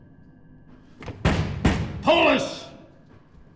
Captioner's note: pounding